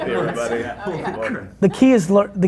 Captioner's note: laughs; group chattering